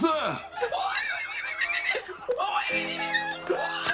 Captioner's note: squealing